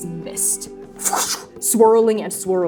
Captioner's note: fwooshing